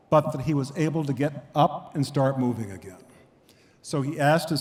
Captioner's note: none